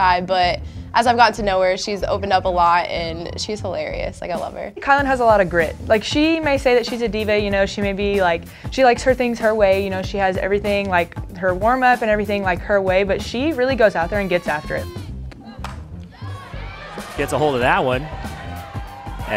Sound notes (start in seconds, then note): 16.2 cheering